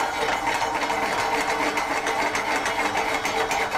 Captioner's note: pan scraping